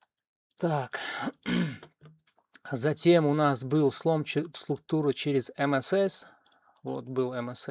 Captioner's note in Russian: откашливается